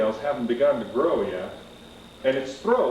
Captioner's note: none